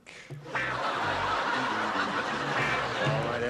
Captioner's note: laughter